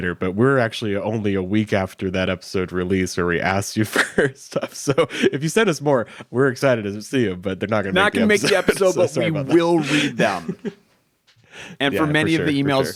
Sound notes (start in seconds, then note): 8.2 chuckles